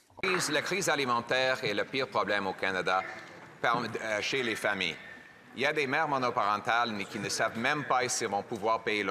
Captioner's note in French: voix de l'interprète